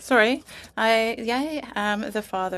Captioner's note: speaking french